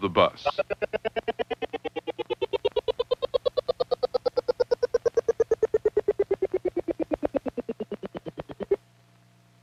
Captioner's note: doinking noises